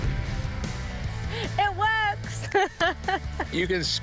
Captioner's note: laughs